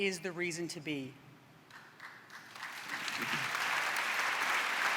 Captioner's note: applause